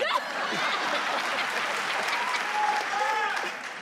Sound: crowd cheers

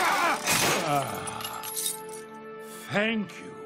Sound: sighing

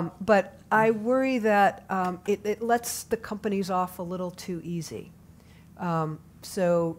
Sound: none

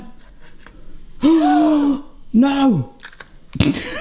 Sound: man gasps; both gasp; man laughs

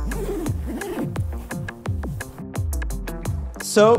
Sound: unzipping

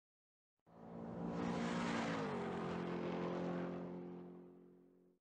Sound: car engine racing

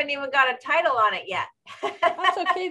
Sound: laughs

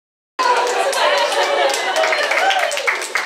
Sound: audience applauds and cheers

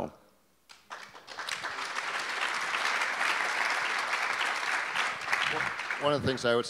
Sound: audience applause

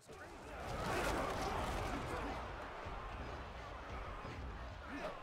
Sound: yelling and crashing

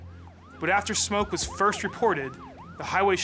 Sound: sound of sirens

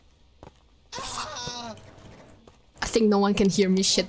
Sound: screaming

